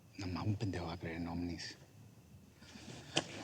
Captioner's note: speaking spanish